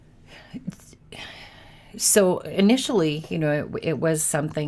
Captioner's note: sighs